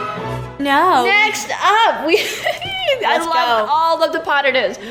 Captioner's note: excited hehes